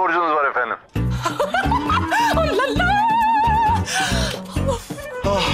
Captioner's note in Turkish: Gülme sesi